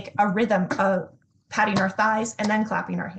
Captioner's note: thighs patting